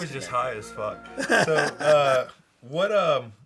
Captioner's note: laughs